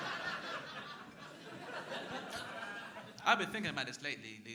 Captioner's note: crowd laughing